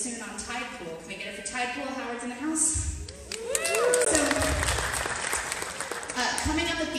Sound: applause

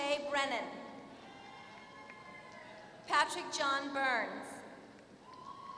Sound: applause; applause

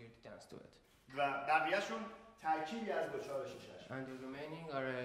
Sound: speaking in farsi

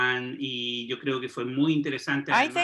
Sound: speaks foreign language

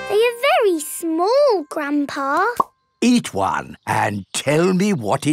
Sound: none

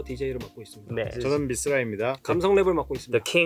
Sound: speaking in Korean

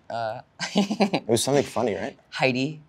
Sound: laughs

